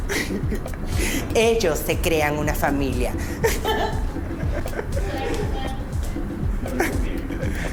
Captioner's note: chatter